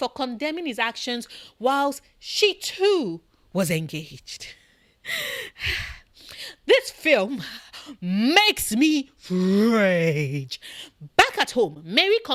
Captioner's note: sigh